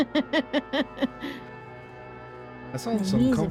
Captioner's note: laughing